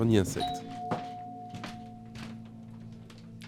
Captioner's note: doorbell